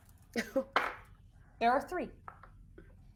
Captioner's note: dice thudding